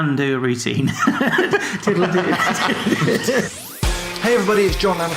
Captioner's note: laughing